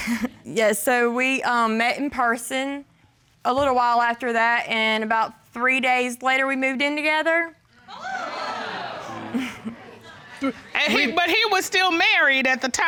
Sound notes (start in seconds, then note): 7.9 audience exclaiming; 8.0 chuckling